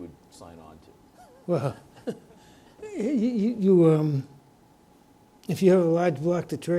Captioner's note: chuckles